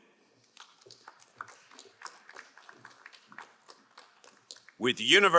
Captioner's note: crowd cheering and applauding